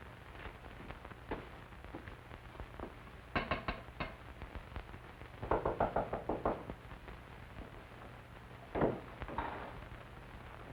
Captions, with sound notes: (knocking on door) - Oh, Professor Fitzgerald.